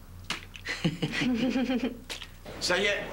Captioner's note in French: Rires